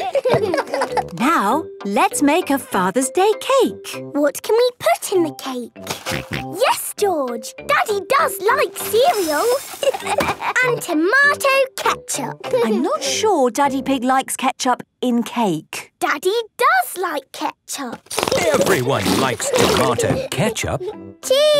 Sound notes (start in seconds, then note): 0.0 laughter; 6.3 snorting; 9.8 laughter